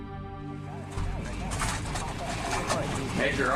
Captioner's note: cameras click